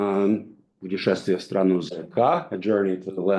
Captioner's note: speaks in foreign language